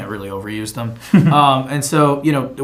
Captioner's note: chuckles